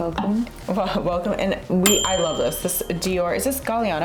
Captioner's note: bell dings